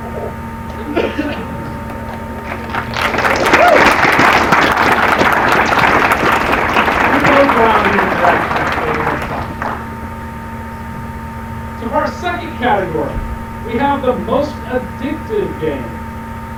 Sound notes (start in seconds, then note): 2.8 applause